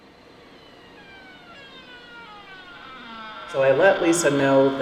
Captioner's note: door creaking